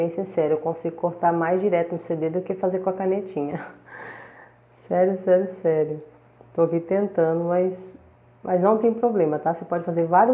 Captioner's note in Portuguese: Risos